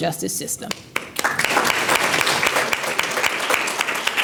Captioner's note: applause